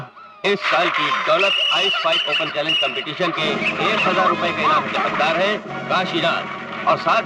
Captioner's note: applause